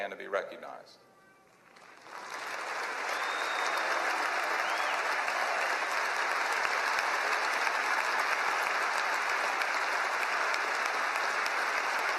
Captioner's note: applause